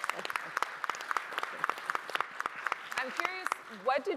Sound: audience applauding

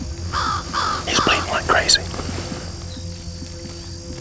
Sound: whispering

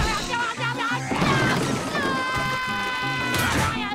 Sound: screaming

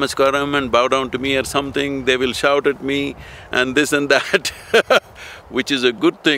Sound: laughs

